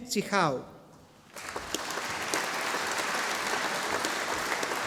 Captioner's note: audience applauding